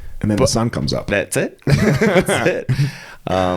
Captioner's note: both laughing